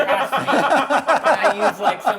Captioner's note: laughing